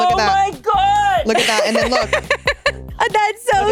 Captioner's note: giggling